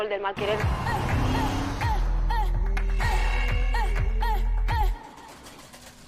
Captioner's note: claps and shouts